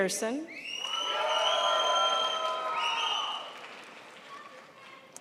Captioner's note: crowd applauds